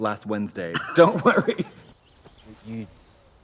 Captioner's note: Trixie laughs; laughs